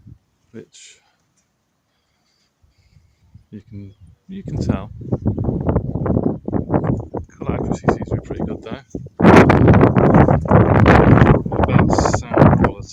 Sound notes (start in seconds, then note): 5.5 wind noises; 9.1 very loud wind noises